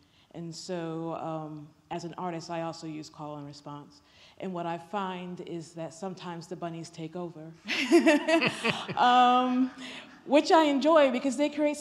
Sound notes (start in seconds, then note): 7.6 laughter